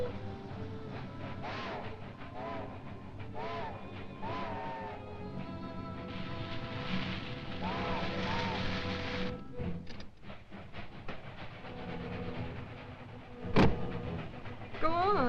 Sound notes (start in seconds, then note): 0.9 train horn blaring